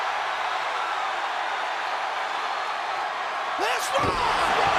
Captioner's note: crowd cheers